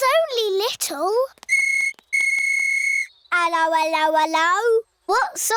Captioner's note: blows whistle